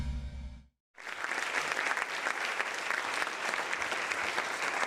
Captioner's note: clapping